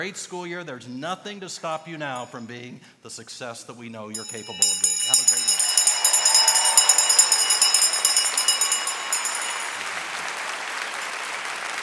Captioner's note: bell ringing